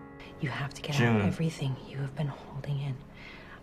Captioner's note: voiceover